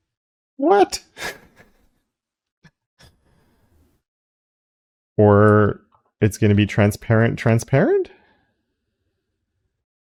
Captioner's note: laugh